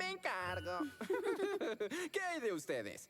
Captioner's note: giggle